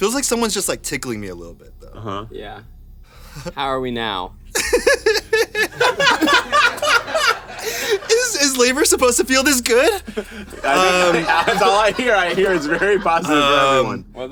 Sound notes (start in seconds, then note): 4.7 laughs; 6.0 everyone laughs